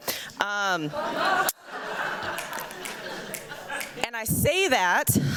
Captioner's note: laughter